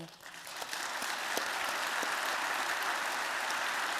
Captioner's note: applause